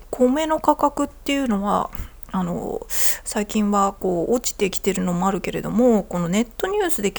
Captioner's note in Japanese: 咳払い